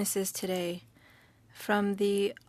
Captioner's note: speaking French